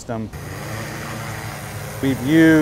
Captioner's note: sound of a drone taking off